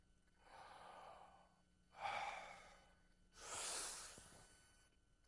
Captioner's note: inhaling deeply; exhaling